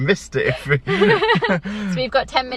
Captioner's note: both laughing